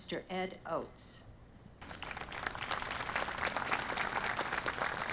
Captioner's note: audience applauding